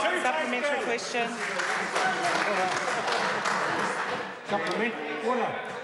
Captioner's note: members applaud